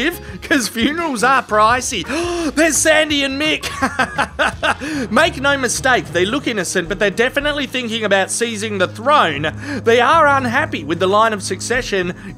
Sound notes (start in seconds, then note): 2.0 gasp